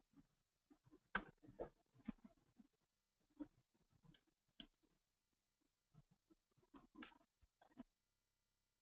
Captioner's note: pause